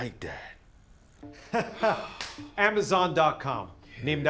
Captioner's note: laughs